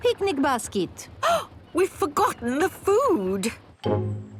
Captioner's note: gasps